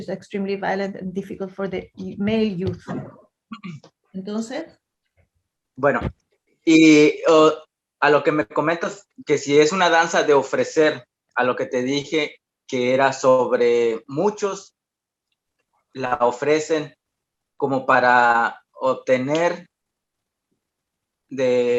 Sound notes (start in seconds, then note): 4.1 continues answering in Spanish